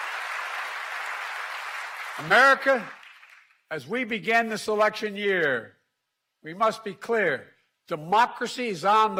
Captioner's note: applause